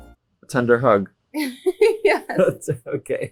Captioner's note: Nora laughing